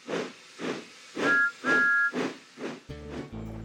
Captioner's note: toot toot